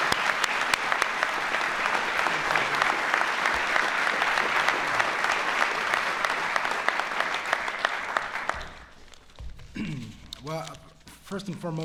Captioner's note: applause